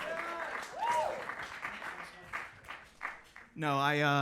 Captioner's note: attendees clapping